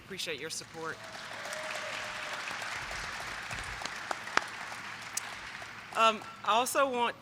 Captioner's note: applause